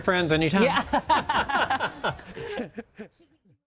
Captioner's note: both laughing